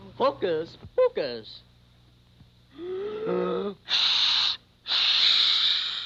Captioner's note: inhaling; air hissing